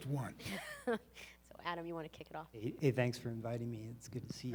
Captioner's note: chuckles